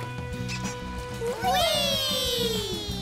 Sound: cheering

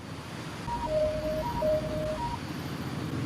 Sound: Net’s watch sound

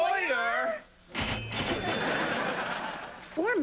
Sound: cash register rings

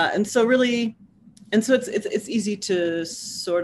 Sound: none

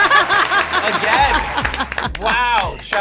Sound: all laughing

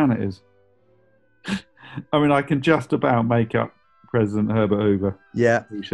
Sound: laughing

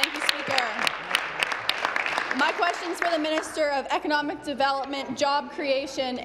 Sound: applause

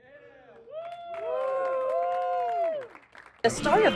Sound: crowd cheering

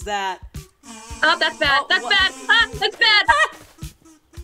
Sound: small scream

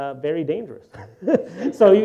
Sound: laughs; audience laughter

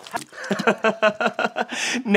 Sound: laughter

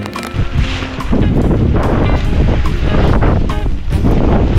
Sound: wind & rain & tarp flapping about

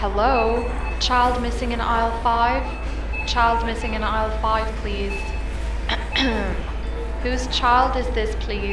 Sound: clears throat

